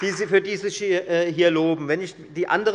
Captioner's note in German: Beifall bei der FDP